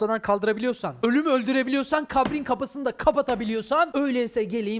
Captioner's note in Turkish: masaya vuruyor sesli